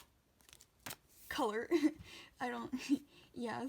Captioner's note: laughs